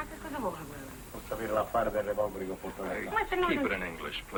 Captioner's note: speaking greek